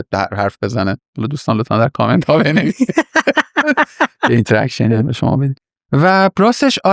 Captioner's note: laughs